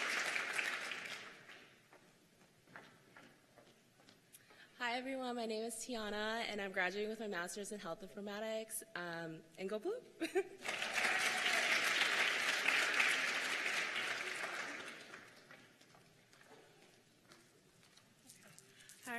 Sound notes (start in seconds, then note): 2.6 cheers and applause; 14.6 cheers and applause